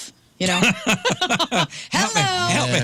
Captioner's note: laughing